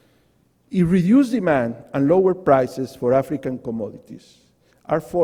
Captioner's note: voice is muffled